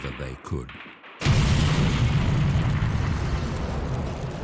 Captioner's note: explosion